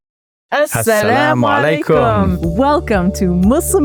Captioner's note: speaking in Arabic